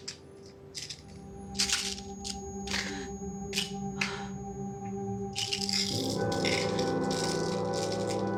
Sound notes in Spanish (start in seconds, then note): 0.7 Sonido del frasco de pastillas